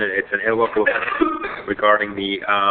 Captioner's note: coughs